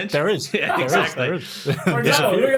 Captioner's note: laughing